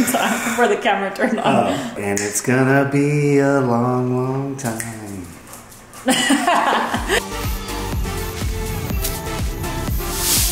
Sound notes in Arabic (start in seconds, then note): 6.0 يضحك; 6.8 موسيقى مبهجة